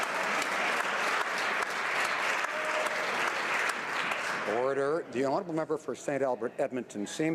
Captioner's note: some Applause